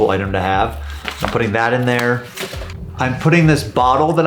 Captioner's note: paper rustling